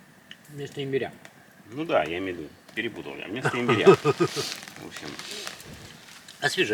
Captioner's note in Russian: смех